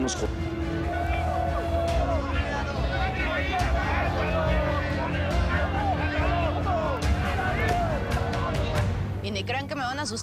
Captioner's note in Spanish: Gritan al unísono